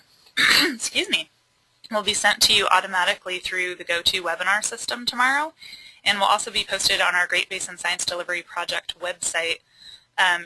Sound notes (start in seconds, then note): 0.4 clears throat